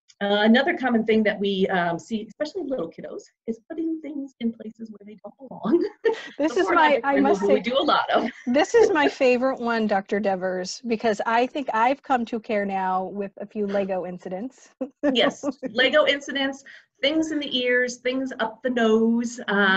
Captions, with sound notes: Another common thing that we see, especially in little kiddos is putting things in places where they don't belong. We do a lot of (laughs). - This is my favorite one, Dr. Devers, because I think I've come to CareNow with a few lego incidents (laughs). - Yes lego incidents, things in the ears, things up the nose.